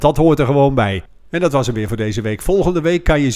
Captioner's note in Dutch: Voiceover